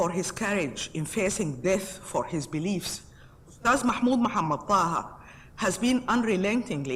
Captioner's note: speaks foreign language